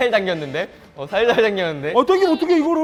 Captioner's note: panicking